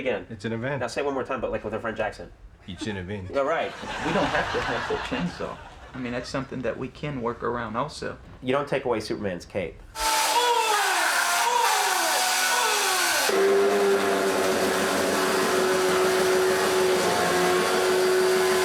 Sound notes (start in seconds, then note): 2.7 speak in foreign accent; 9.9 chainsaw roaring